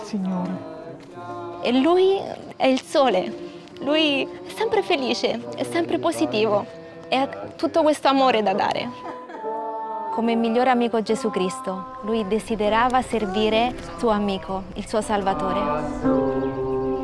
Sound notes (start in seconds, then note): 1.5 speaking Italian; 8.8 laughs; 10.0 speaking Italian